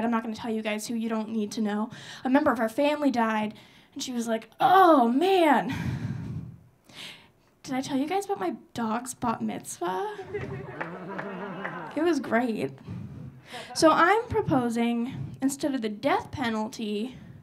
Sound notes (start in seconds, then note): 10.1 audience laughing; 10.2 audience clapping